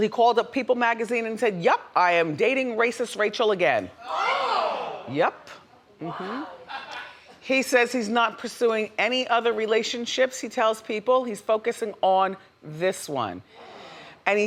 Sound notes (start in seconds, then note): 4.0 crowd exclaims